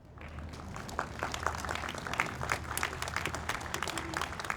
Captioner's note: audience applauds